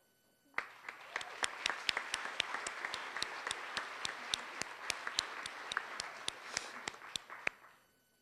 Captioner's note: applause